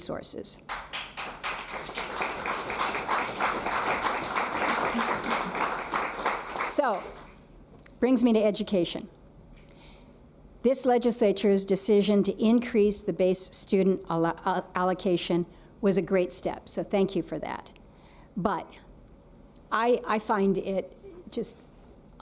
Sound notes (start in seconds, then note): 4.5 applause